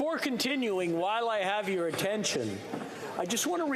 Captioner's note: speaking Alternate Language